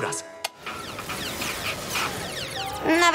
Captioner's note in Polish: odgłosy gry